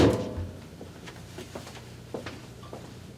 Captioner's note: sound of dish pulled out of microwave and slamming of microwave door to shut it; sound of footsteps